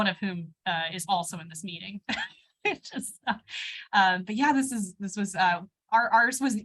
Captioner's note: laughter